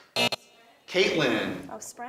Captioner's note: alarm buzzes